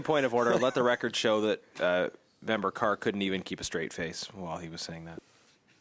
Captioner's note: laughter